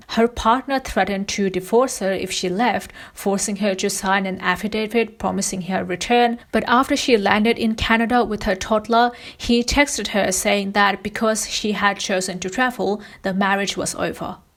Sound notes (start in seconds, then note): none